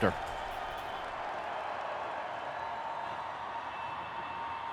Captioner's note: audience cheering